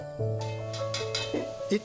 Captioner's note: utensil clanging